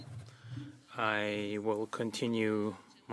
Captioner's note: speaking French